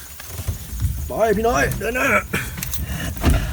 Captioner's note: guide speaking Thai